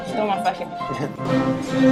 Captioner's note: laughs